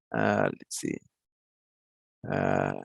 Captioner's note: hums